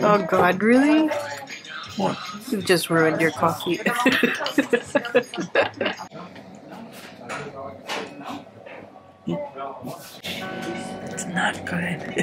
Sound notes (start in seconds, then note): 3.8 laughing